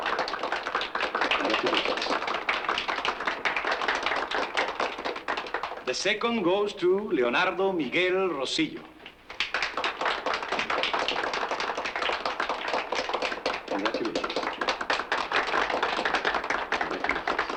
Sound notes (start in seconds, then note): 9.0 applause